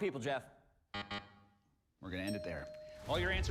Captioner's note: buzzer buzzes